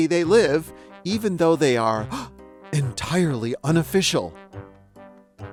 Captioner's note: gasps